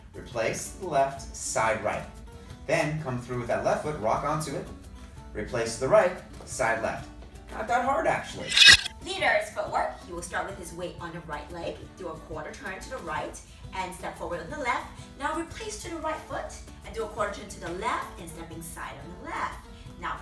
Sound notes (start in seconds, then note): none